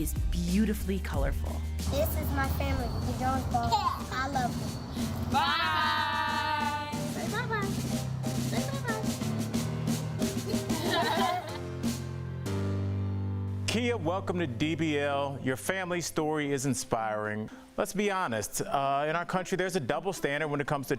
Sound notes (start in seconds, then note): 15.1 laughter